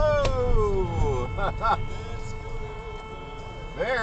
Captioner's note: honnnnnk